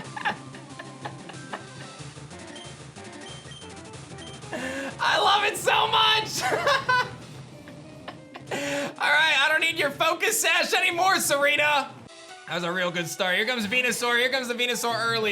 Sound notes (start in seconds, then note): 0.0 laughs; 6.3 laughs